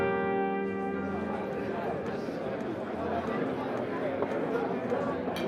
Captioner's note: patrons chattering